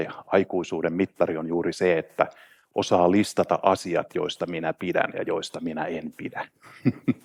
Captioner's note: chuckles